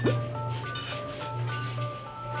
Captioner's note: sniffing